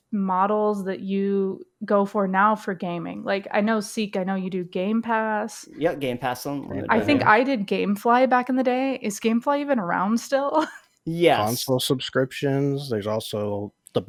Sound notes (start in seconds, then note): 10.2 laughs